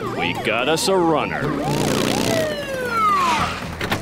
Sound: siren blaring

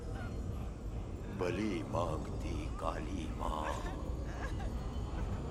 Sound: speaking hindi

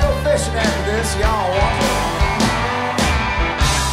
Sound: crowd cheers

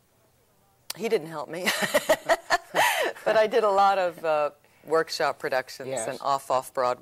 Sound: laughs

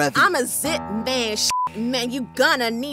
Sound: beep

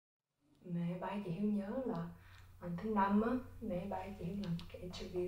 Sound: speaking foreign language

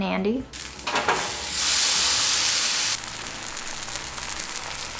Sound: toast sizzling

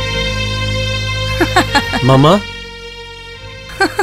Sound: laughs

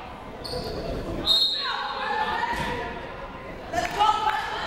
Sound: whistle blowing; people shouting in the crowd

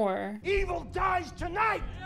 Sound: crowd

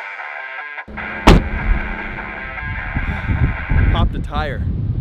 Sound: door slam

